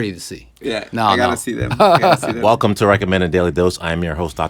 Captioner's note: laughter